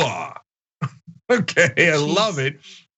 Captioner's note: laugh